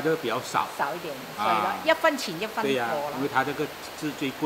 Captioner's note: Cantonese